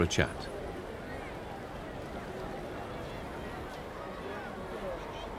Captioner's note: distant chattering